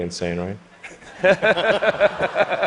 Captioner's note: laughter